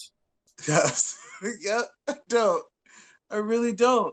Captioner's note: laughs